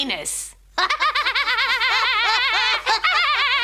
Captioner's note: laughing